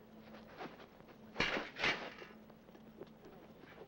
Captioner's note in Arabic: صوت رنين الأسلحة